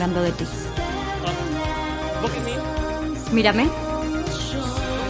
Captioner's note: speaks in english; speaks in english